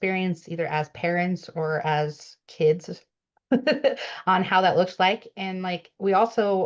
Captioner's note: laughs